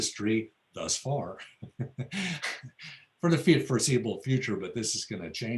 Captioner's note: laughs